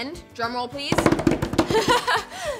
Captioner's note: tapping on table; laughs